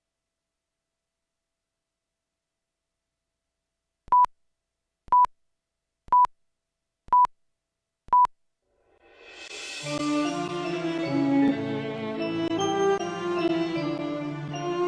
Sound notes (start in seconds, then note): 4.0 beeping; 9.2 slow klezmer-style music